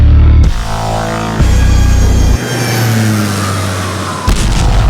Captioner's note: soaring jet plane; atomic explosion